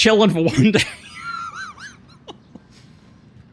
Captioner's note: laughs